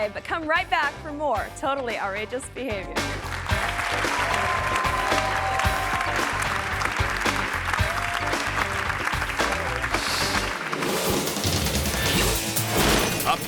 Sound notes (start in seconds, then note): 3.2 audience applauding; 10.9 upbeat music